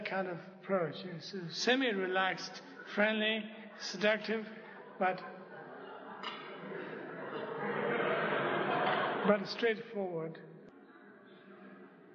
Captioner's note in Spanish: risas